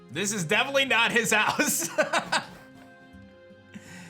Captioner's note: laughs